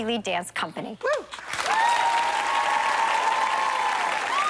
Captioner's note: applause